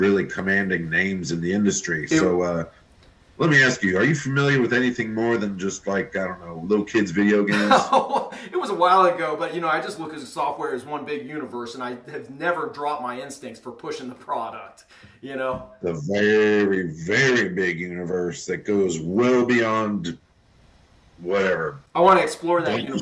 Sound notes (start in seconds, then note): 7.0 laughs